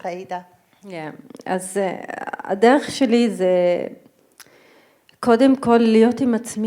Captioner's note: speaking in foreign language